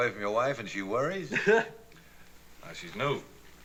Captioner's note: laughs